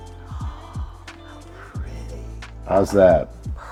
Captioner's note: gasps